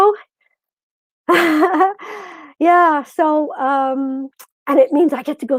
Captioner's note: chuckles